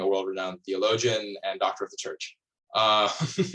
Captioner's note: laughs